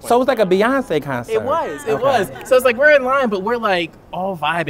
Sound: laughter

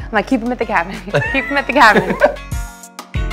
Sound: both laugh

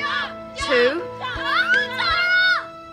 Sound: Kat squeals

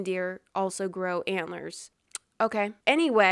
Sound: smack's lips

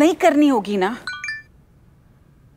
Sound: cell phone chimes

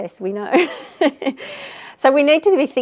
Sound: giggles

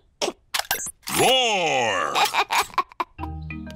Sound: giggles

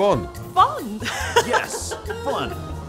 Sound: laughing

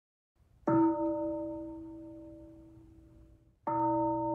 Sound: bell; bell

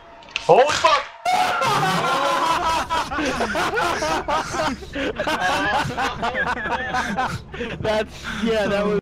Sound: laughter

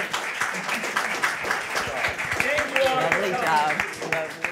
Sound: all applauding

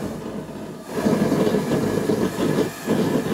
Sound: flames hissing

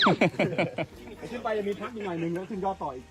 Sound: laughter

